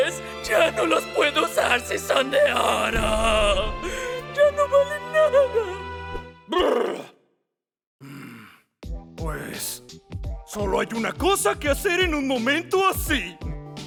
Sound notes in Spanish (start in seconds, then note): 6.3 Lloriqueando